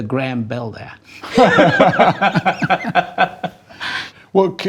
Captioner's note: both laughing